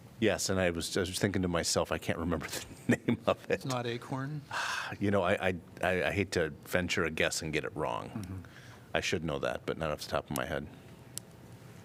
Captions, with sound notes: Yes. And I was just thinking to myself, I can't remember the name of it [LAUGHTER]. It's not Acorn? You know, I- I hate to venture a guess and get it wrong. I should know that, but not off the top of my head.